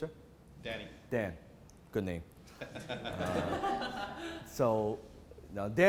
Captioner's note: audience giggles